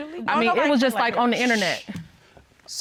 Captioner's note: shushes